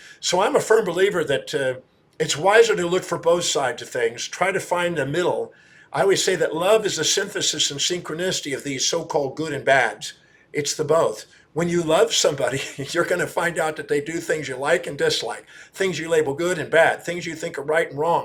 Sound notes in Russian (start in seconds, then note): 12.4 смеется